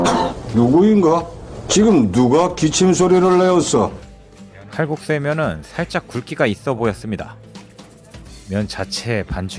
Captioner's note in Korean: 콜록콜록